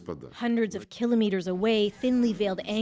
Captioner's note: speaking Foreign Language